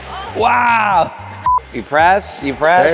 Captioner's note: beep